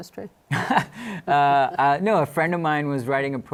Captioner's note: laughter